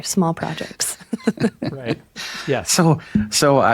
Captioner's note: chuckles